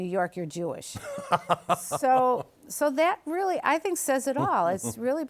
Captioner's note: laughs